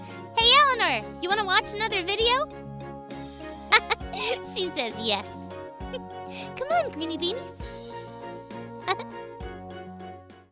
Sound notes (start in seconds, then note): 3.7 laughing; 8.8 giggling